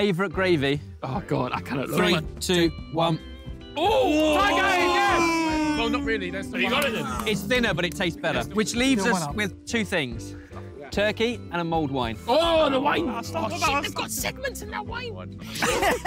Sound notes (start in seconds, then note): 3.8 all exclaiming; 15.4 laughter